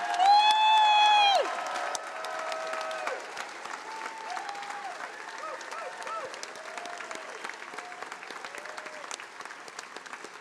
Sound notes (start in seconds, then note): 1.0 attendees applauding; 3.6 attendees cheering and applauding